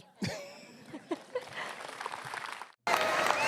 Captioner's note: applause